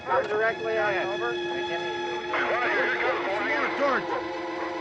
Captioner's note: various voices on police radio